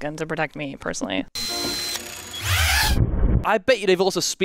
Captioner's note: drone whirring